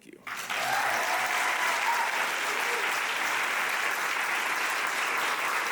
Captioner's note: audience applauding